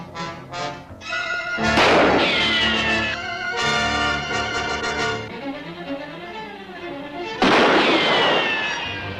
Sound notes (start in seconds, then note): 1.6 gunshot; 7.4 gunshot